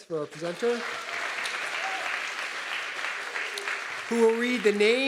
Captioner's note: audience clapping